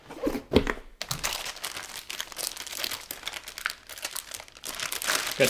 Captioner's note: package crinkling